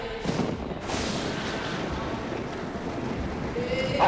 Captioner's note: thunderclap